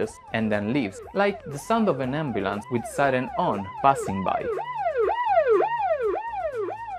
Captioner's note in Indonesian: sirene ambulans